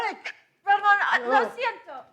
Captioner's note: speaks in foreign language